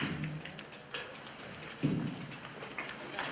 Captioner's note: beatboxing